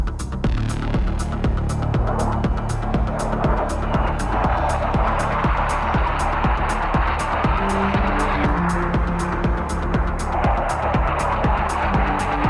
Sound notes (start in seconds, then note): 0.1 intense upbeat music; 3.5 jet aircraft roaring